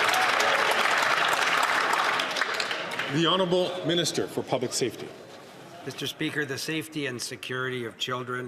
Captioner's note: applause